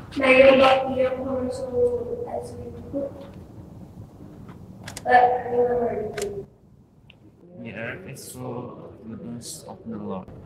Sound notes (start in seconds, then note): none